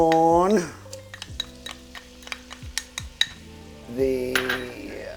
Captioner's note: glass clinking